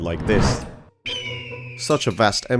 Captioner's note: eagle screech